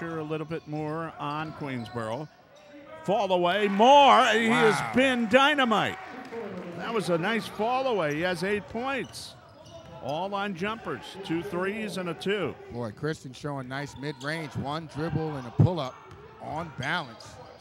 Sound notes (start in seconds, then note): 2.2 shoes squeaking; 2.2 yelling